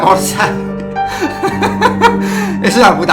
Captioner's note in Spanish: Risas